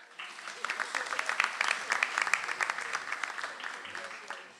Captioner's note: audience applauds